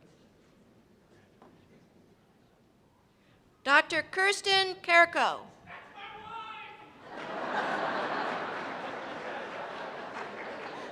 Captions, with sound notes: Dr. Kirsten Kerko. - [Voiceover] That's my wife! (laughter and applause)